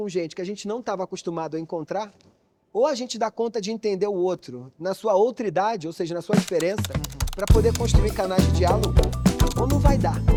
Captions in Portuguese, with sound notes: gente que a gente não estava acostumado a encontrar, ou a gente dá conta de entender o outro, na sua outra idade, ou seja, na sua (Typing)